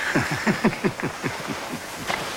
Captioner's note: chuckle